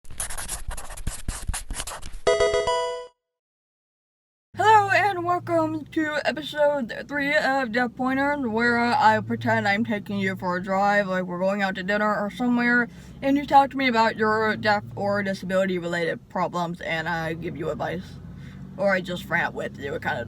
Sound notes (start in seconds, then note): 0.0 marker scratching; 2.2 electronic video game chime